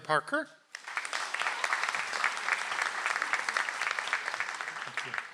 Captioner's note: audience applauds